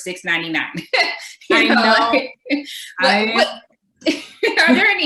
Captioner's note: laughs